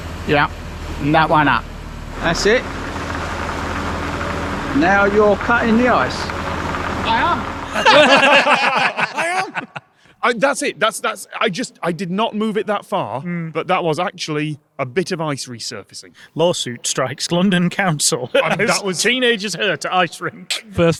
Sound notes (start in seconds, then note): 7.6 group laughing